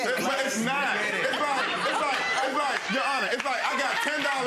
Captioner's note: audience laughing and clapping